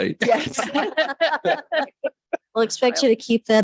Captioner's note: all laughs